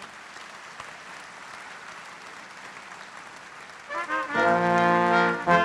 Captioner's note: applause